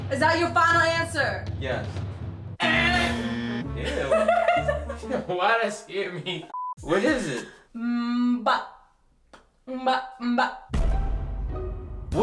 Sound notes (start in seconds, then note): 3.1 buzzer; 3.8 laughs; 10.7 explosion; 10.7 comical music